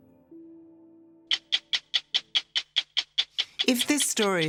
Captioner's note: tick tick tick